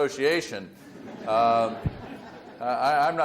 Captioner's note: audience laughs